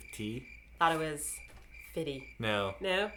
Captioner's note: crickets chirping